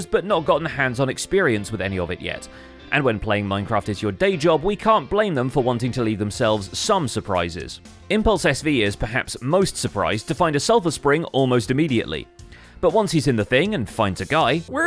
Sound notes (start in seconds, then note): none